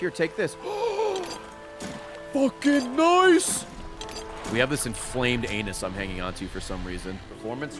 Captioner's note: gasps